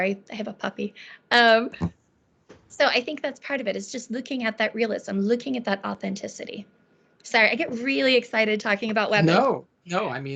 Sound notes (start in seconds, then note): 1.5 chuckling